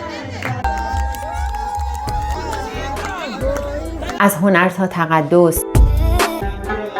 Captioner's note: applause